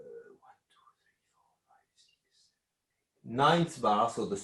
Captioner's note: whispering